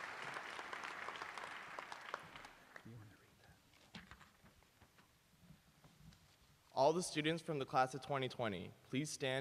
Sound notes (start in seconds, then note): 0.0 applause